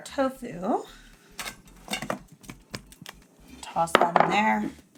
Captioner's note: tofu clattering